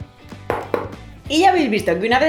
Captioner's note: tap tap